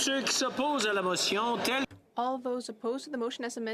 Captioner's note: calling of recorded vote